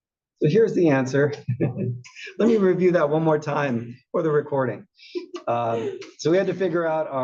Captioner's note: laugh